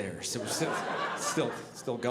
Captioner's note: audience laughing